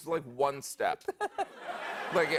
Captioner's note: laughter